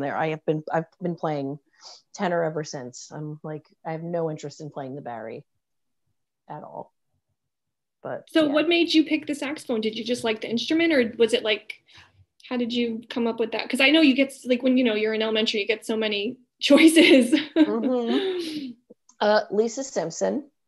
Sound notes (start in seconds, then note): 17.4 laughing